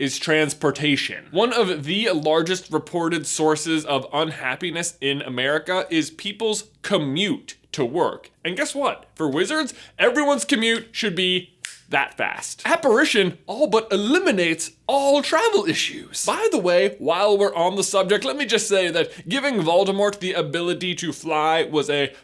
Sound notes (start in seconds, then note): 11.6 snap